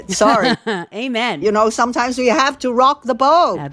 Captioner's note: laughter